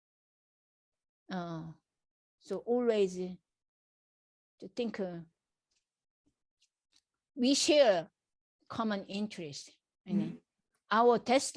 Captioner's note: laughs